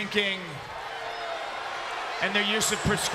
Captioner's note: crowd boos